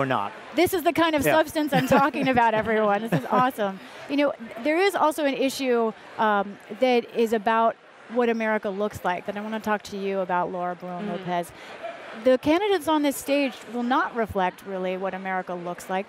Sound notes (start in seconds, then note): 3.8 laughter